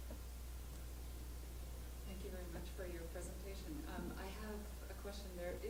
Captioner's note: voiceover